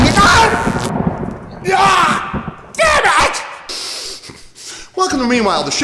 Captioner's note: thunder; sniffles